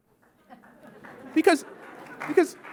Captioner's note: audience laughs and claps